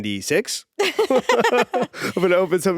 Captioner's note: both laughing